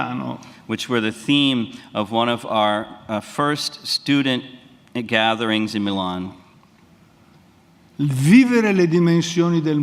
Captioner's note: speaks in Italian; speaks in Italian